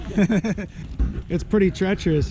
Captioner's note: laughter